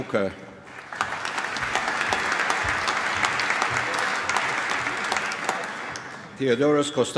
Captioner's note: applause